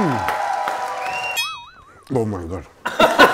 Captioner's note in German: Jubel, Applaus; Boing; Lachen